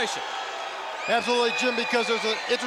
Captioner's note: crowd cheering